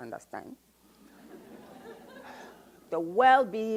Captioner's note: audience laughs